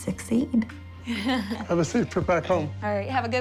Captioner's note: chuckles